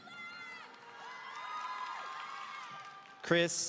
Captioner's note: audience cheering